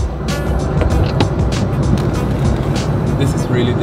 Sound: air humming

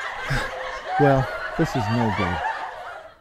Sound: laughter

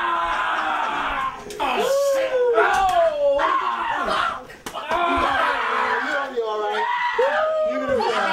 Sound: screaming

